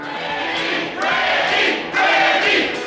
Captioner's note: crowd